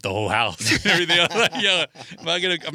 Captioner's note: laughing